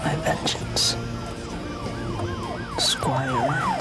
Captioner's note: sirens wailing